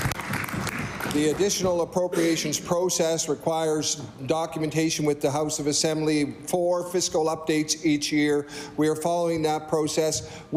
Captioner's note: applause